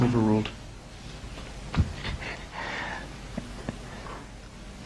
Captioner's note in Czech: směje se